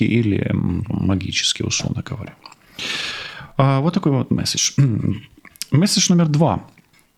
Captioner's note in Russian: тяжело вздыхает